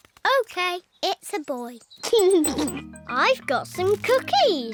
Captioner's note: giggles